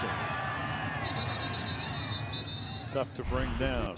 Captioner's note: whistle